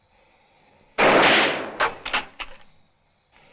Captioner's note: gunshot